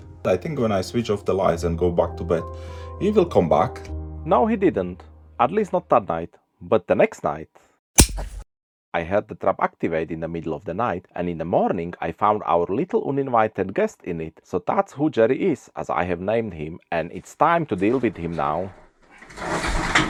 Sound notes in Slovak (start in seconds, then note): 8.0 Klapnutie pasce